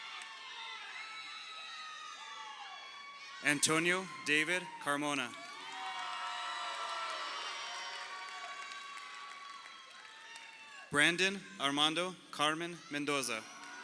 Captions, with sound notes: Antonio David Carmona. (crowd cheering) Brandon Armando Carmona Mendoza.